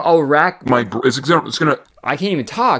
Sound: voice effect

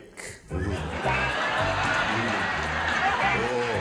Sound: laughter

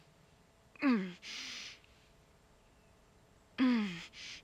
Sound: Brigit gasps; Brigit groans

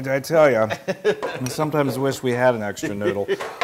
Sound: laugh

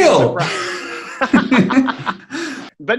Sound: laughing

